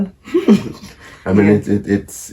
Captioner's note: group laughing